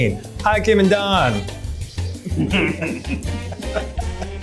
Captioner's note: all laughing; chuckles